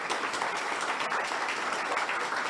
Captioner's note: audience applauds